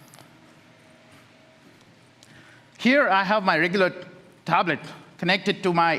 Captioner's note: A pause